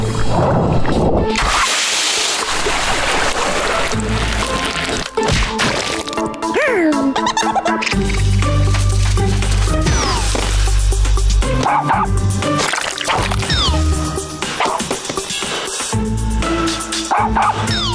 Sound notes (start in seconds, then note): 6.6 gasping, laughing; 11.6 barking; 17.0 barking